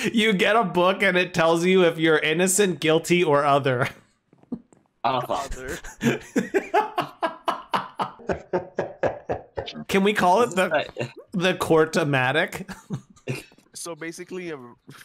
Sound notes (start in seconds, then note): 5.2 laughing; 8.2 scary laughing